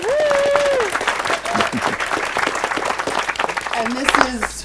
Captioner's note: group claps and cheers